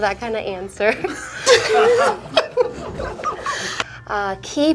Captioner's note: both laughing